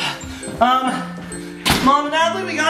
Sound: door slams

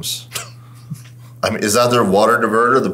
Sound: laughing

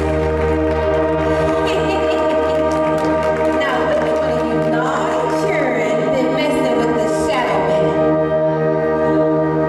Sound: laughter

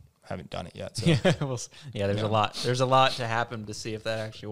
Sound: laughs

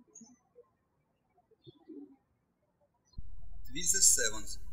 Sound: birds chirping

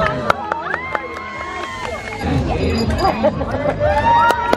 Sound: crowd applauding

